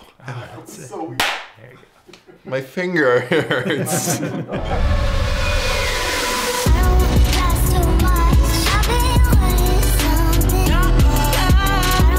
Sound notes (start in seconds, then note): 1.1 loud hand clap; 6.1 upbeat music